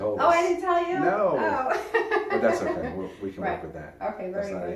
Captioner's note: laughter